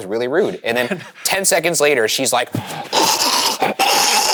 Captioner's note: choking